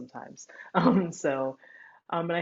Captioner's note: chuckles